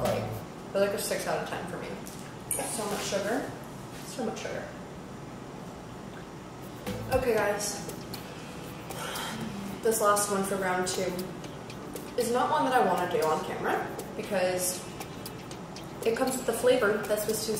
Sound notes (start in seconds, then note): 8.9 sighs